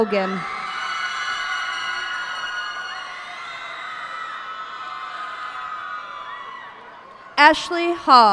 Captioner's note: cheers and applause